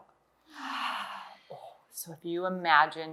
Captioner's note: exhales